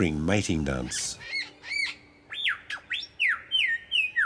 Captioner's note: birds chirp